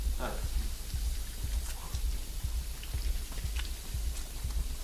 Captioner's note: water gushing